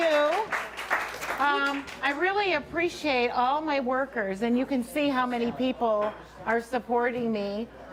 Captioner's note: applause